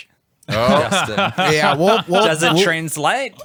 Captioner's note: laughs